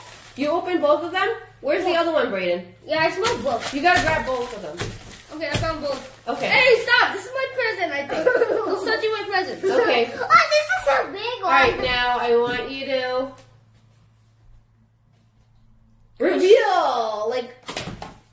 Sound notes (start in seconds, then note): 8.0 giggle; 15.1 big pause